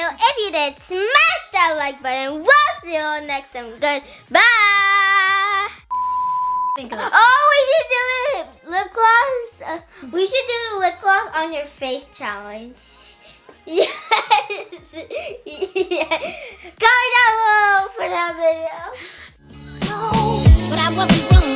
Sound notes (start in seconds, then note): 13.6 laughs